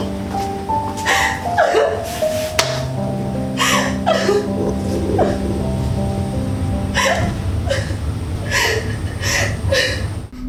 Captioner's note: crying